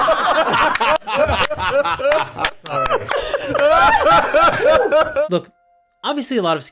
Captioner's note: extended laughter